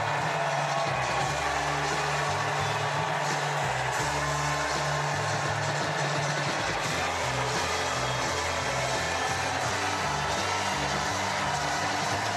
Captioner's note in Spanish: gritos